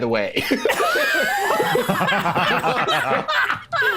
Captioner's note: all laughing